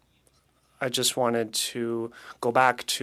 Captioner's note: speaking French